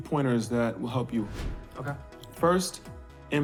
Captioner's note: air whooshing